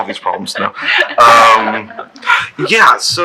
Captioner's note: laughing